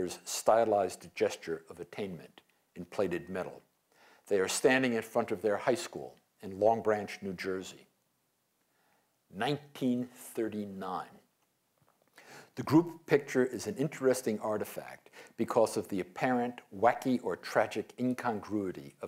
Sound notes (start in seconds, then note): none